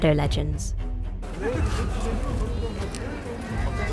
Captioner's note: students chattering